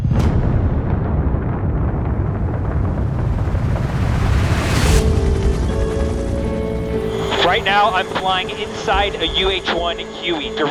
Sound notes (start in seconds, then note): 0.0 missile blasting; 5.1 helicopter whirring